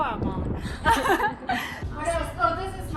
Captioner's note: laughing